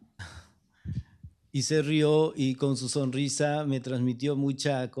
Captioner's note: speaking spanish